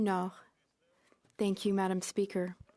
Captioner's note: speaking French